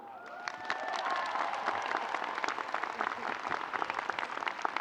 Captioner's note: audience applauds